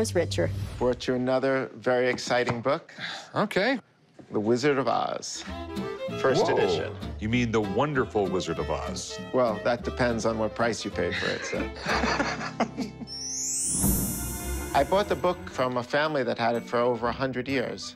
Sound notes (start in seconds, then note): 11.1 laughs